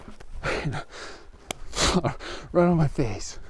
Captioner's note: laughing